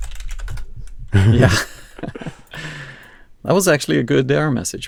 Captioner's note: laughs